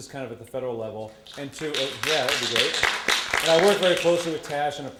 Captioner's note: audience applause